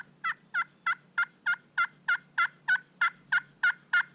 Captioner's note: turkey calls